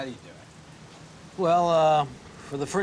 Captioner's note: sighs